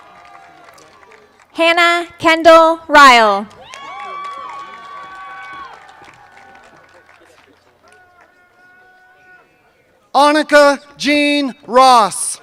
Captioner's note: cheers and applause